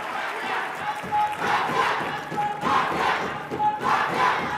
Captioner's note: audience chanting